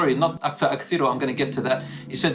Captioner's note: Arabic